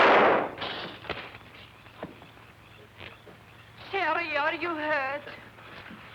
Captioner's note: explosion